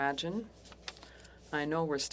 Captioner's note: speaking French